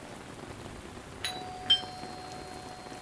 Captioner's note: doorbell